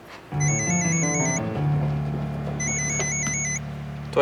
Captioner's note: phone rings